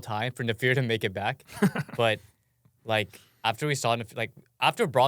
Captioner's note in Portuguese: risos